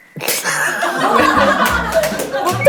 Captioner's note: crying